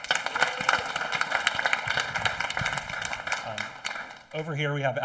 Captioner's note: audience applauding